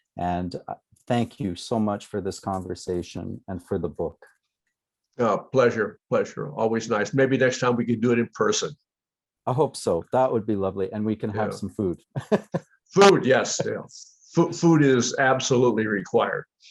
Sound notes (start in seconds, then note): 12.1 laughter